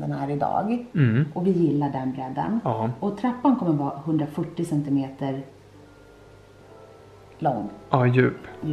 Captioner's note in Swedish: hummar